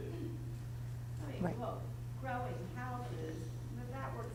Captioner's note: voiceover